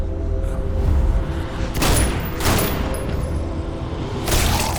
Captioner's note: gunshots